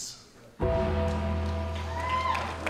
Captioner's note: bell rings; audience applauding; audience cheering